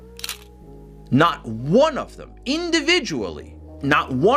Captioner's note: camera shutter clicks